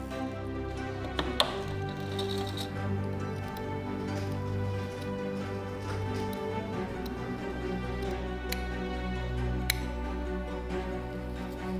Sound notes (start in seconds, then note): 3.4 scissors clicking